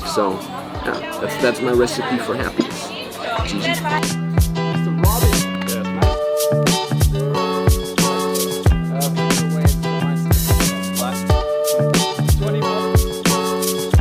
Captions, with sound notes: So that's my recipe for happiness. (upbeat music) (chatters)